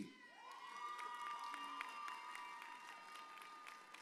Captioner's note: audience cheers